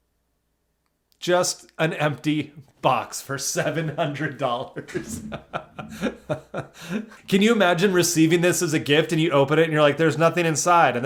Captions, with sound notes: just an empty box for $700. (laughs) Can you imagine receiving this as a gift and you open it and you're like, "There's nothing inside."